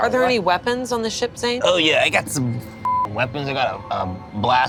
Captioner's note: beep